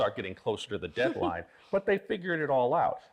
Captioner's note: laughing